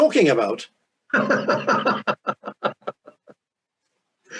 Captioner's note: laughing